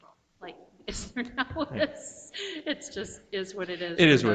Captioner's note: chuckles